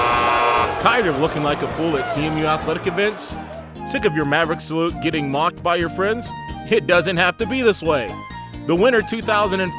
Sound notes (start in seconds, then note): 0.0 buzzer; 0.0 cheering